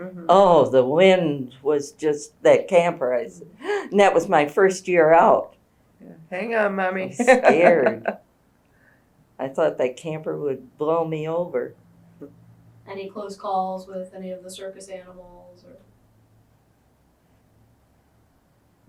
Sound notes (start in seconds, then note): 3.2 gasps; 8.6 laughs